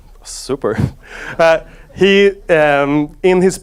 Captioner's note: audience laughs